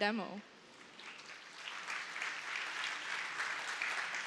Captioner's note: applause